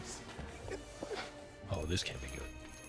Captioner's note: doorbell jingles